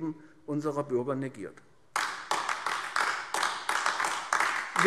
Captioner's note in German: Beifall AfD